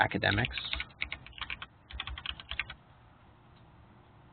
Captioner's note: keyboard clicking